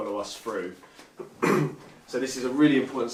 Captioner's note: clears throat